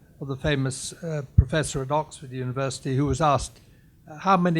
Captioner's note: none